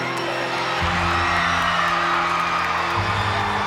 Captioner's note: crowd cheering; eerie music